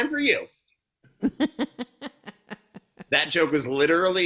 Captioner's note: woman laughing